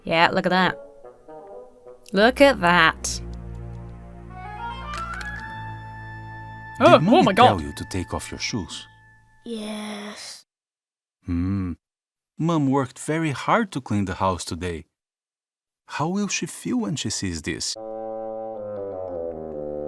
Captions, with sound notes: - Yeah, look at that. Look at that. (whimsical music) - (shudders) Oh, my god. - Did mommy to tell you to take off your shoes? - Yes. - Hmm. Mom worked very hard to clean the house today. How will she feel when she sees this? (sorrowful music)